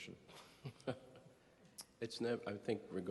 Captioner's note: chuckling